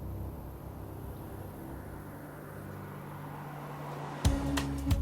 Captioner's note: traffic passing